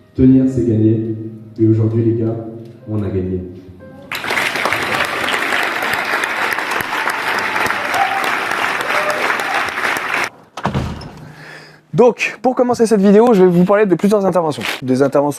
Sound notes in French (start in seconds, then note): 4.1 applaudissements